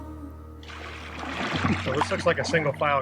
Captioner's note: splashing sounds